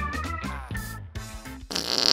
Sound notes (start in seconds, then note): 1.7 farts